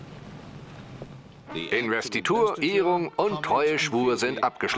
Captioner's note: voiceover